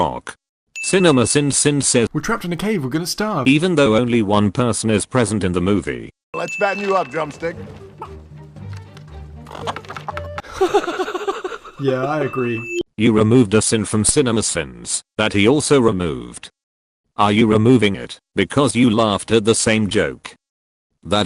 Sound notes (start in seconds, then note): 10.0 Cinemasins laughs